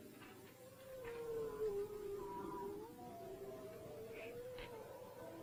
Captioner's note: howling nearby